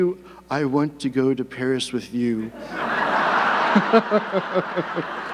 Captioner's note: audience laughing; laughs